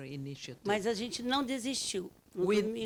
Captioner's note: speaking Portuguese